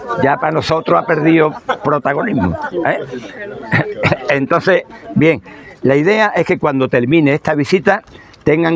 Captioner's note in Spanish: risas